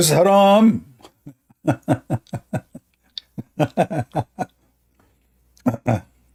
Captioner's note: Ketawa